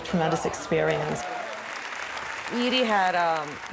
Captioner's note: audience clapping